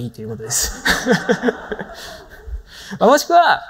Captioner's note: laughs